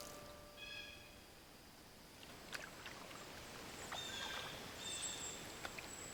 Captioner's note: insects droning, birds calling